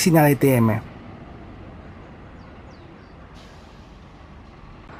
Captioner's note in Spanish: sonido ambiente con los buses